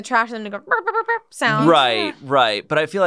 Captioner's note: humming